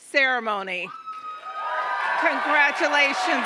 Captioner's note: cheers, applause